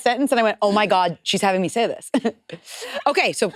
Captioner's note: laughs